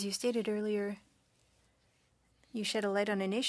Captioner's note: speaking French